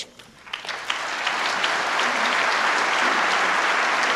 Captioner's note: applause